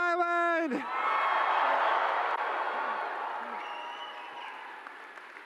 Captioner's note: cheering